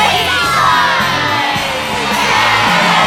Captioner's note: cheering